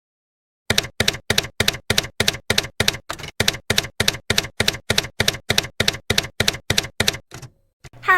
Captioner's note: typewriter keys clacking